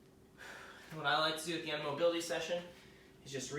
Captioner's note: exhaling